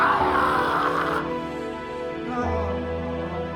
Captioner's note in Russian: демонические крики